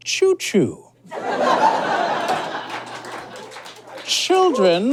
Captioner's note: audience laughs, scattered applause